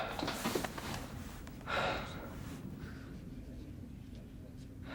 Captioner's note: Adam sighing